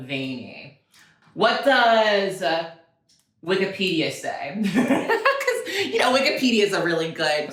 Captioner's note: laughs